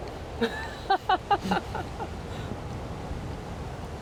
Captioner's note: laughing